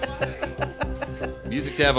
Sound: laughing

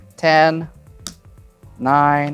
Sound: card slaps

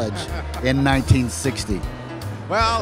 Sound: laughs

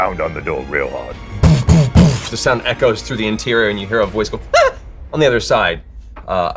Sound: thudding; startled yell

